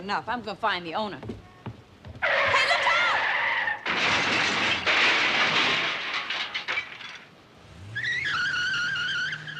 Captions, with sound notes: I'M GOING TO FIND THE OWNER. [tires screeching] [crashing] [glass shattering] [tires squealing]